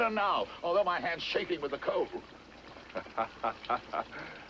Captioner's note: chuckling